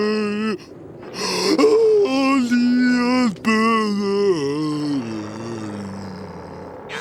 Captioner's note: Patrick moaning; screaming